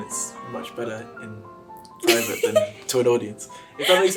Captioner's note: laughs